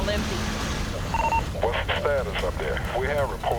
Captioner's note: man, over radio